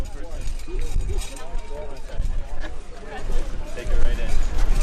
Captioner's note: crowd chattering